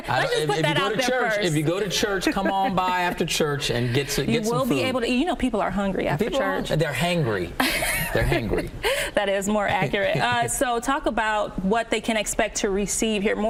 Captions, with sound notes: Let's just put that - If you go to church - out there first. - If you go to church, (laughing) come on by after church, and get some food. - You will be able to eat, you know people are hungry after church. - People are. They're hangry. (woman laughing) They're hangry. - That is more accurate. (Hill chuckling) So talk about what they can expect to receive here,